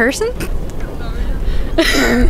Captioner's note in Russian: смеется